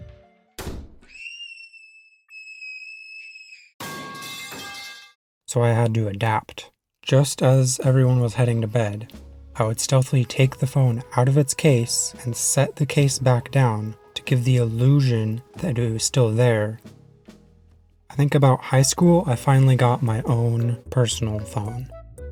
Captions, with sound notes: [SLAM] [SCREAMING] [metal pipe.wav] So I had to adapt. Just as everyone was heading to bed, I would stealthily take the phone out of its case and set the case back down to give the ✨Illusion ✨ that it was still there. I think about high school I finally got my own personal phone.